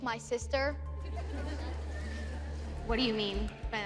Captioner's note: laughter